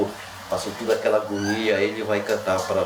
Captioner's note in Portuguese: cão chorando